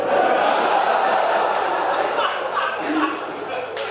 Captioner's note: audience laughing